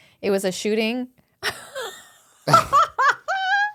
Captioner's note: laughing